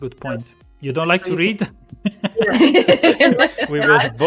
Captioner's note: laughter